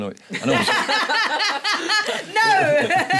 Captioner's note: laughing